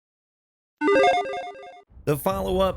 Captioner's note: 16-bit chimes ring